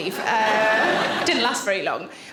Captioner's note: audience laughing